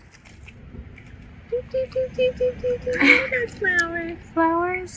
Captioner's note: singsong